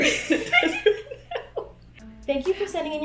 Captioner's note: girls laughing